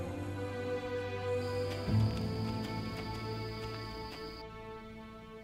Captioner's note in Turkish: Ayak sesi